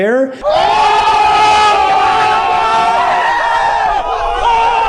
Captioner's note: crowd screaming